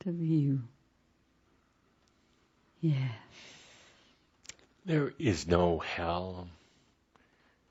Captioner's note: speaking very gently